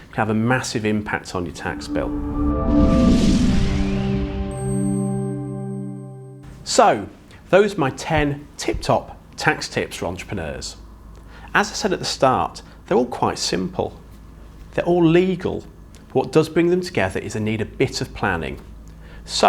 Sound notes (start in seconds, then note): 1.6 graphics whooshing; 1.6 gentle music